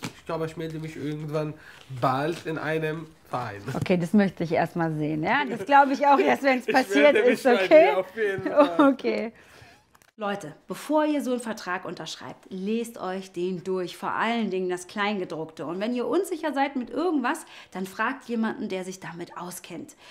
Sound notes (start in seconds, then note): 8.0 laughing